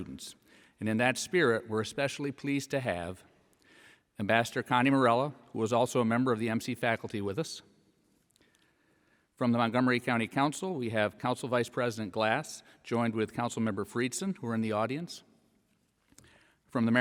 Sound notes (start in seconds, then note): none